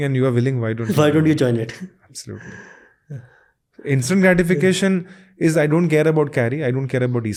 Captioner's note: chuckles